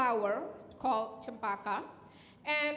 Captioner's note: speaking in Indonesian